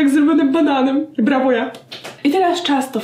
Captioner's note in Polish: klask klask